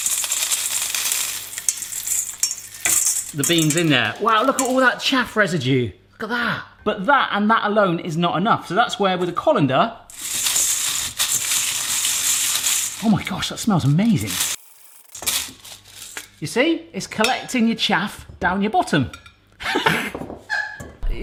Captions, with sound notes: the beans in there. Wow, look at all that chaff residue. Look at that. But that, and that alone is not enough. So that's where, with the colander, (rattling) oh my gosh that smells amazing, you see? It's collecting your chaff, down your bottom. (laughs)